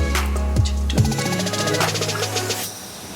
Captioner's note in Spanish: Tararea